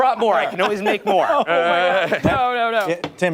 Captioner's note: laughter